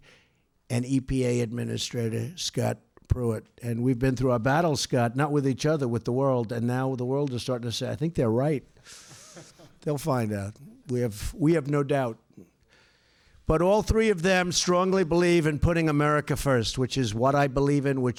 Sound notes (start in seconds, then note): 9.0 laughter